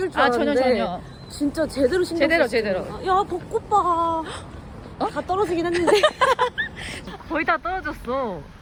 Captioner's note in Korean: 웃음